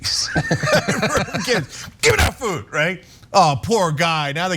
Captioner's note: laugh